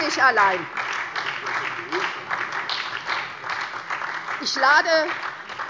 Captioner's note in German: Beifall SPD und vereinzelt DIE LINKE